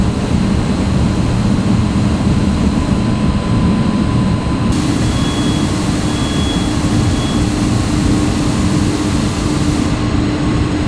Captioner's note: engine revving